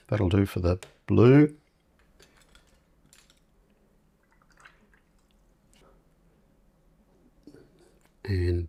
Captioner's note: silence